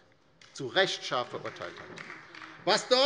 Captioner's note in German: Beifall bei der LINKEN